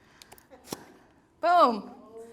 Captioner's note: plastic pops